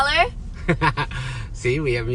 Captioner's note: laughs